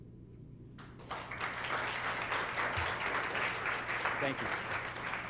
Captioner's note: applause